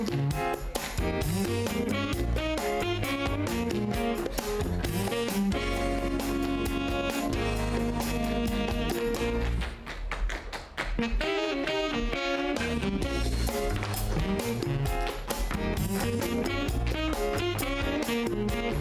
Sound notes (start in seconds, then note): 9.2 applause